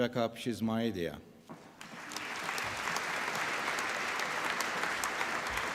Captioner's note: applause